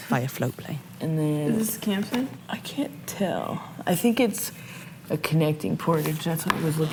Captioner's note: guides talking